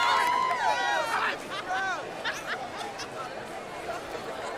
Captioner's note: chatter